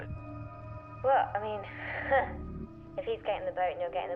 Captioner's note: chuckles